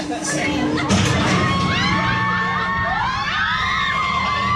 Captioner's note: metal clatters; riders scream